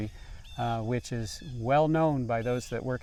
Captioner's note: birds chirping